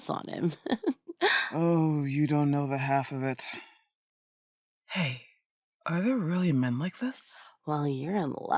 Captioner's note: whisper